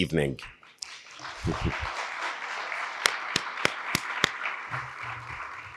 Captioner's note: audience and applauding